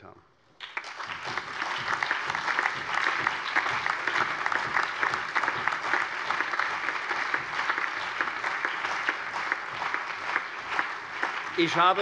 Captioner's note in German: Allgemeiner Beifall